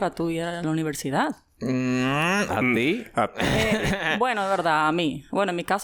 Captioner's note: laughs